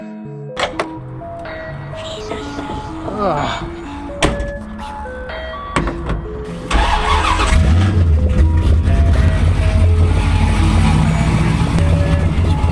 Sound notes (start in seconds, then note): 7.0 car starts